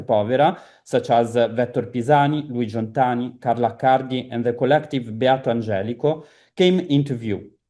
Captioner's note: italian